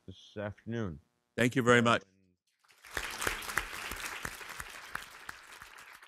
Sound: audience applauding

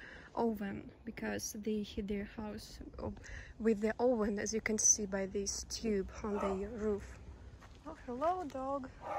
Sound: dog barks

